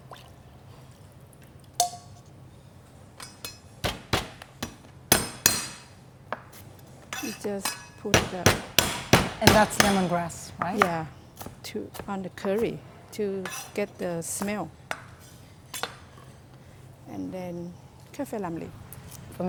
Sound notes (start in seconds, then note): 3.8 chopping sounds